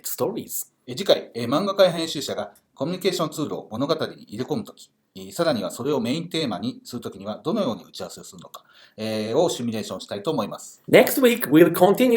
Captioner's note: speaking Japanese